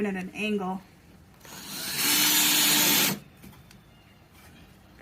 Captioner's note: tool buzzing